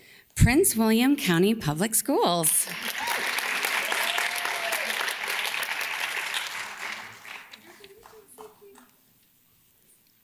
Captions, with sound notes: Prince William County Public Schools. (audience cheers and claps)